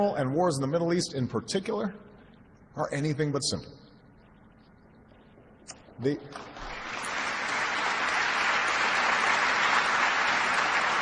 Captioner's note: applause